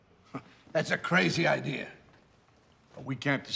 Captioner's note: laughs